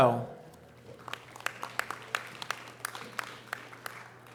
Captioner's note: audience applause